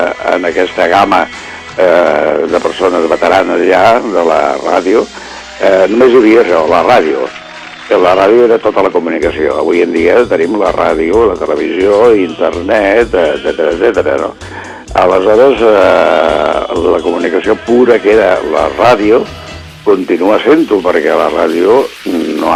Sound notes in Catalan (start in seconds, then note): 7.4 Aplaudiments